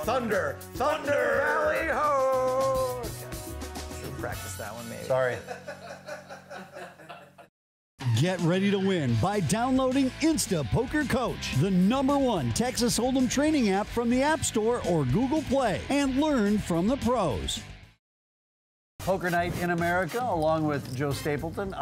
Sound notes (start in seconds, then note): 5.4 laughing off camera